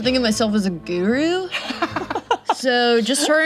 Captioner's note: laughs